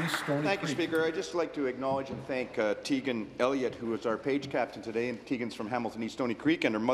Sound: applause

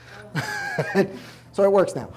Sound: chuckles

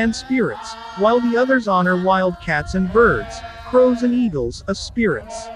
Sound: crows and eagles

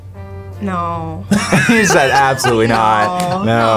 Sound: both laugh

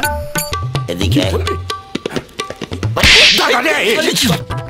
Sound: tight Slap

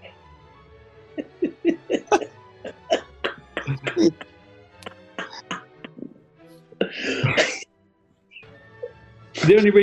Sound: giggling

